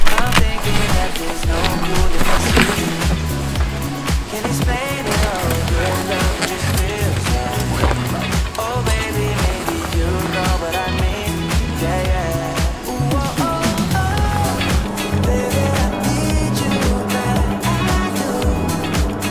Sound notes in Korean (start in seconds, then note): 15.8 비행기 소음